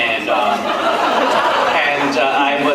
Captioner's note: laughs